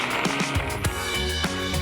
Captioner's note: applause